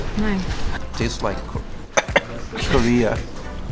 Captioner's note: coughs